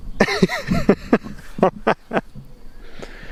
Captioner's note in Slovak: smiech